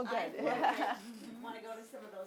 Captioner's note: laughs